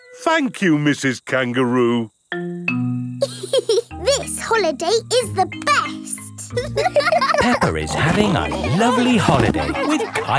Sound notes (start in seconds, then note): 3.8 giggles; 6.4 laughing